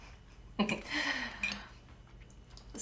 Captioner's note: Stef giggles